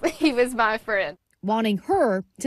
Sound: laughs

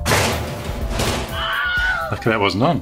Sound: bag crashes; woman screams

